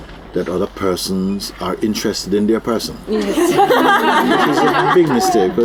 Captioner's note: laughter